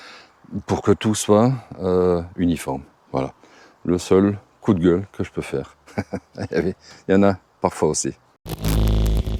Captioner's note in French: rires